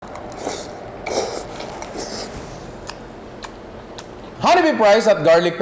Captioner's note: slurps